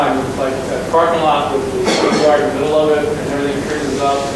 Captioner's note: person coughing